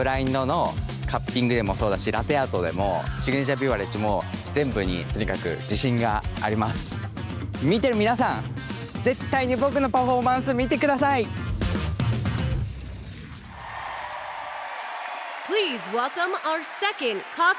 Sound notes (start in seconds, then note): 1.2 speaking japanese